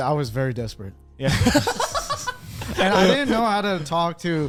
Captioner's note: laughs